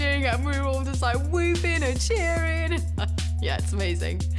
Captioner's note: laughs